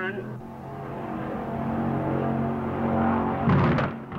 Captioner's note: engine rumbling